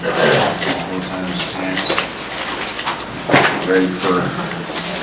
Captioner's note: murmuring